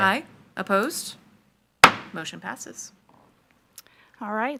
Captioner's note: gavel thuds